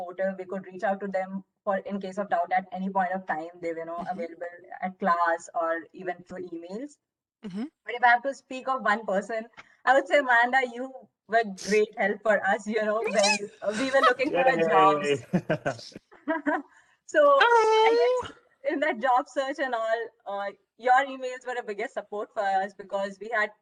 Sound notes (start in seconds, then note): 15.1 laughter